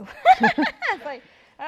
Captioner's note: laughs